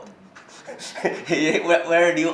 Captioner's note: laughs